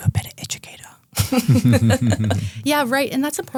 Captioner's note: group laughing